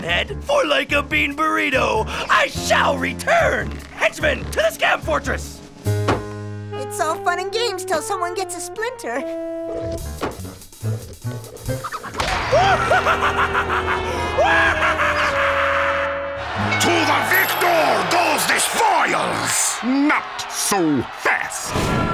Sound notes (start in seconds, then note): 11.8 Eddy laughs; 16.6 crowd cheers